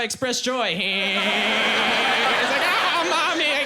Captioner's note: laughing strangely